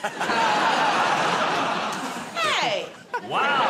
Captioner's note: laughter